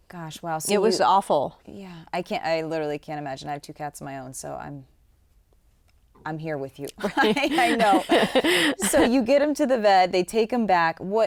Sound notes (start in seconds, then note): 7.0 chuckles